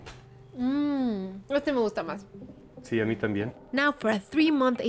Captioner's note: both speaking Spanish